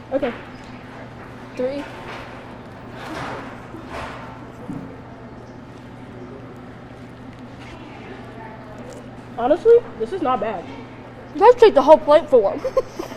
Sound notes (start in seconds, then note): 2.9 loud banging nearby; 12.5 all giggling